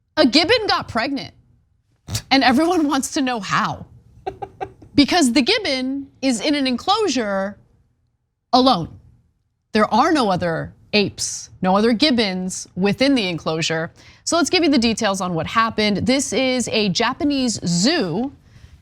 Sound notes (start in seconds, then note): 4.2 laugh